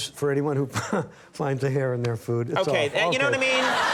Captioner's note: chuckles; audience laughing